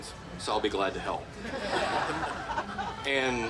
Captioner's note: group laughing